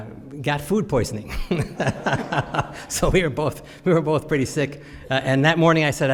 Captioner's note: laughs